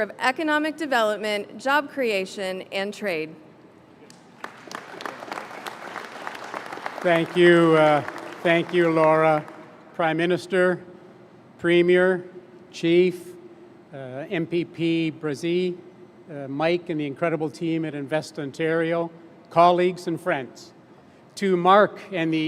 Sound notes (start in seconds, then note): 8.3 applause